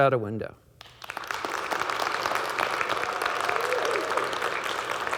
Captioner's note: audience clapping